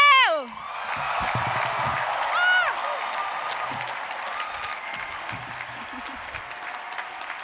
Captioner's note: audience cheering; applauding